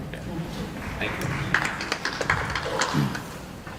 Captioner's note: applause